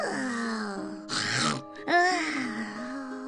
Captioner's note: sighs; snores loudly